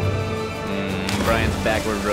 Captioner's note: splash